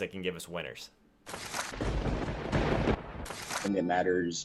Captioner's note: lightning strikes